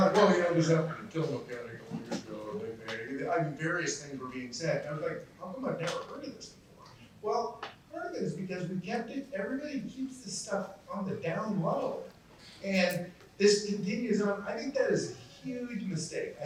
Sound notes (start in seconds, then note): 2.5 mumbles